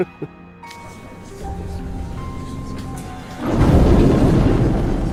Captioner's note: everyone: *whispering